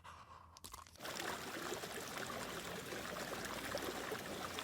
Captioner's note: water gushing